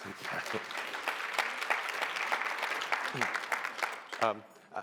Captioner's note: applause